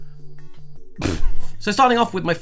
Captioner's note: laughing